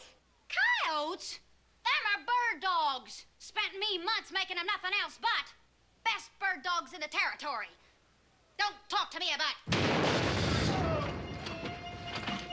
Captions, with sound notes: COYOTES?! THEM ARE BIRD DOGS. SPENT ME MONTHS MAKING THEM NOTHING ELSE BUT. BEST BIRD DOGS IN THE TERRITORY. DON'T TALK TO ME ABOUT... ( gunshot )